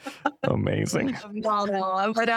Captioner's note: laughter